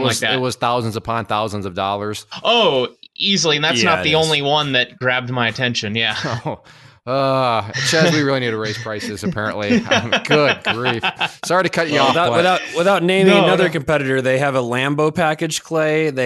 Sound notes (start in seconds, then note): 6.6 laughs; 9.8 laughs